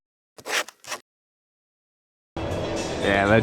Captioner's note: camera shutter